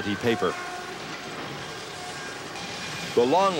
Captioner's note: machinery squealing